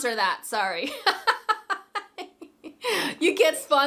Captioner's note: laughing